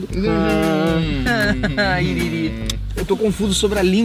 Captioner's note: immature noises